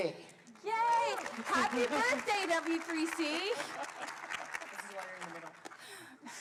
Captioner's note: applause